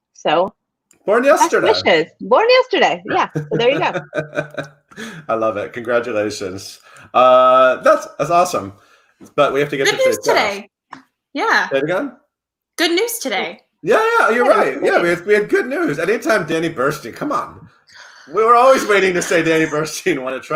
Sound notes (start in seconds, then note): 3.1 laughs